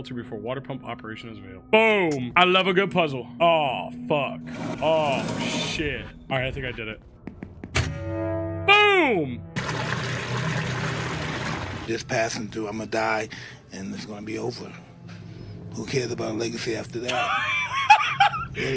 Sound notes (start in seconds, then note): 9.6 water sloshing; 17.1 Skull laughs